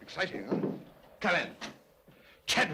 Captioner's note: knock at door